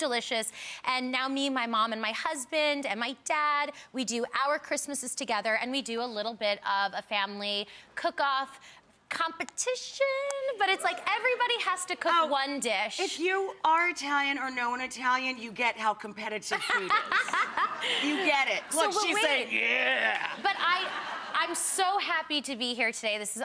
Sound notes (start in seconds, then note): 16.5 Leah laughing